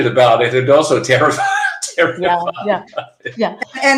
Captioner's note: laughing